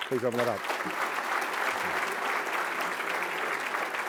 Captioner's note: applause